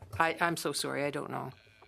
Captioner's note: speaking French